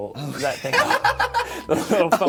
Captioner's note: laughing